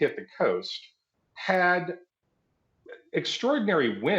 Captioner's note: none